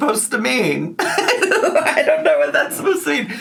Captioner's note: laughs